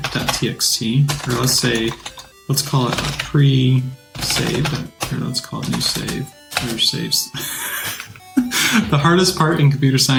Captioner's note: laughs